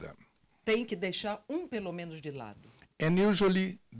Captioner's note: translator speaking Portuguese